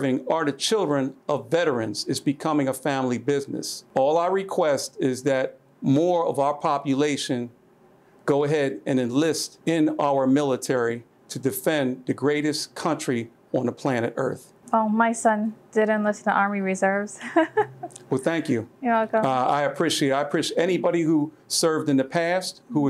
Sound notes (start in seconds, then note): 17.1 laughs